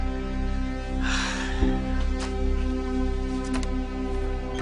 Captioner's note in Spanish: Suspiros